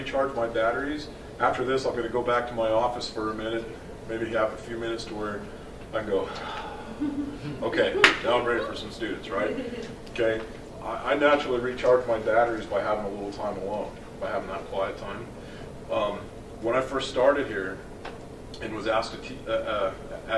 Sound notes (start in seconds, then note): 6.2 sighs